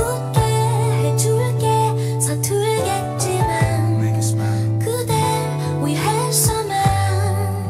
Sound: foreign language

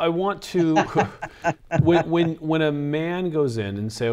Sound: laughing

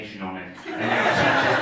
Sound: audience laughing

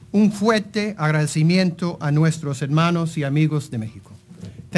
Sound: speaking Spanish

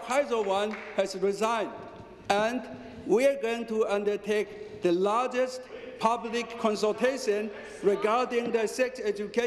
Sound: some applause

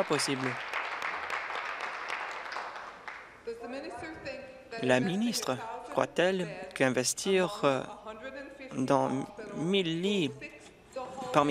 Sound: applause

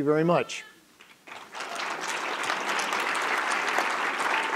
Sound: applause

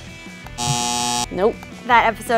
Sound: buzzer

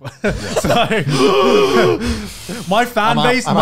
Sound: laughing; screaming

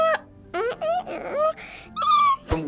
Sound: making squeaking noise

